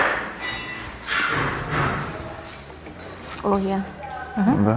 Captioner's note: tools banging